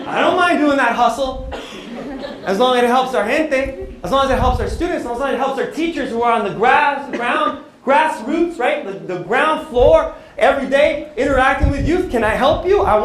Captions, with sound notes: I don't like doing that hustle. As long as it helps [NON-ENGLISH SPEECH],, as long as it helps our students, as long as it helps our teachers who are on the grass, ground-- grassroots-- the ground floor every day, interacting with youth. Can I help you?